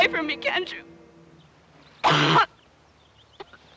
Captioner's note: coughing